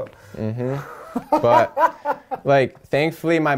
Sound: laughter

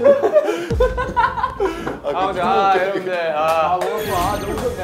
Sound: thinking about it again and bursts laughing

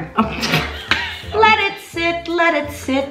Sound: laughs

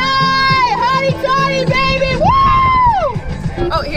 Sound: screams

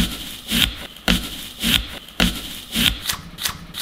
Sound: crunching

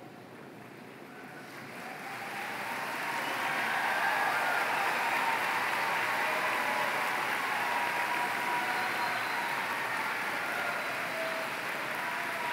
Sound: applause

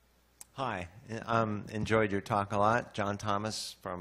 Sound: voiceover

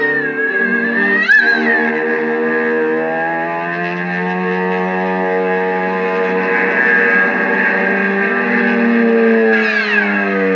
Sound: buzzing; vroom

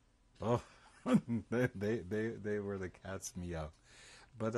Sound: laughs

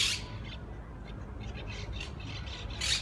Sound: birds chirping

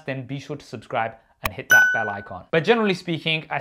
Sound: bell dinging

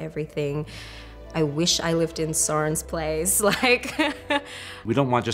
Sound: laughs

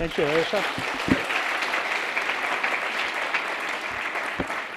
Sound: applause

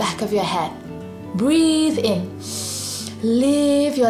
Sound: breathes in deeply

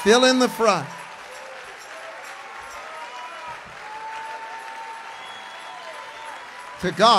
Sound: congregation cheers

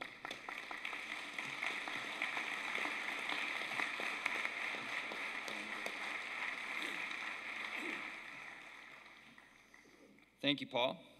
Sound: applause

